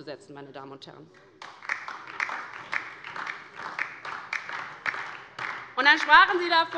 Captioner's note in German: Beifall DIE LINKE